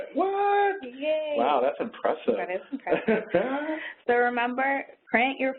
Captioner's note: laughs